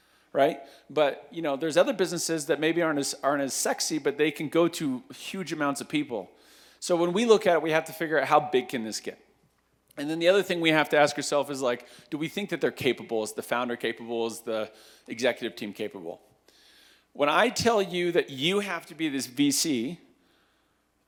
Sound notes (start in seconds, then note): none